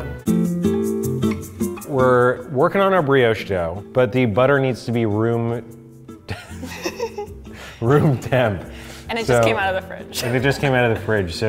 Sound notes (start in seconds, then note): 0.1 gentle whimsical music; 6.2 both laughing